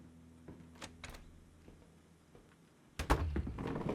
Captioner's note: door clacking